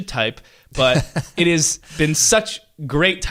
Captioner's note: laughter